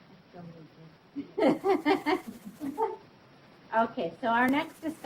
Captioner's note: laughs